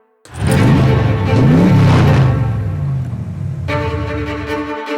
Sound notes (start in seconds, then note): 0.2 engine revving